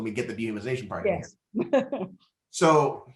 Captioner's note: laughs